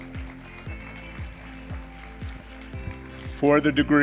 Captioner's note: applause